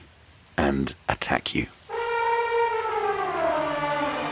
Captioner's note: elephant trumpeting; dramatic music